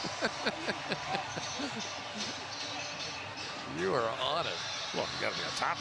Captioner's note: laughs